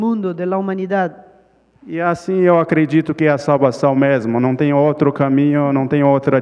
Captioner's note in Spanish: Ponente habla en portugués